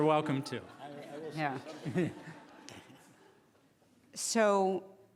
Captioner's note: laughing